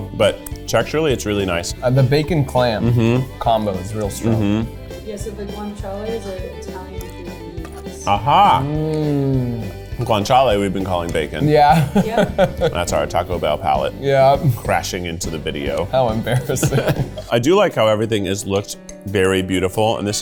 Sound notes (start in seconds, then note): 11.7 laughing; 16.3 both chuckling